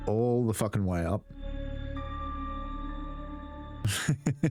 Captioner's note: laughs